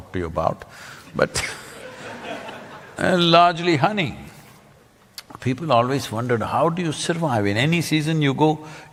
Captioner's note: laughter